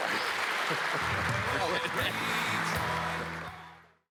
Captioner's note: applause